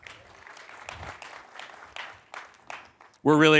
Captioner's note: applause